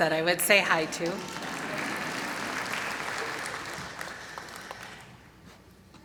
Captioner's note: applause